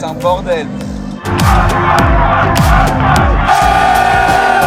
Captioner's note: frenzied crowd